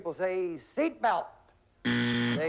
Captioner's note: buzzer